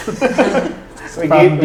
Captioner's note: laughs